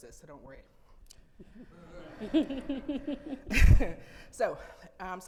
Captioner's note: audience chuckling